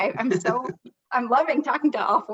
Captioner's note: laughs